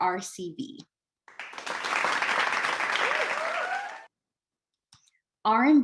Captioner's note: audience applauds